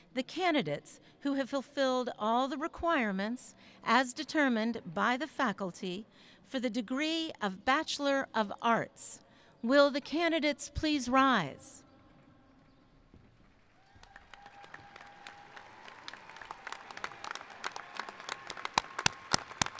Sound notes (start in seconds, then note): 13.4 applauding; 13.7 cheering